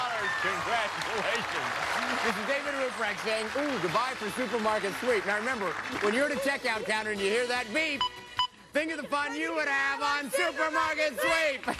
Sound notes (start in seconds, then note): 7.9 electronic beeping